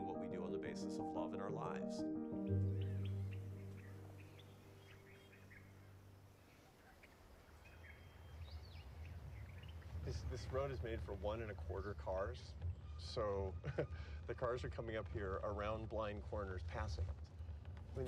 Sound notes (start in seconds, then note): 3.0 birds chirping; 13.5 chuckles